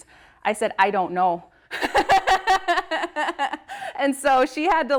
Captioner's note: laughs